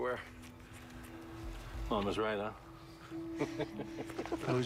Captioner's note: chuckles